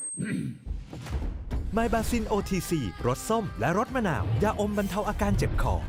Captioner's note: clear throat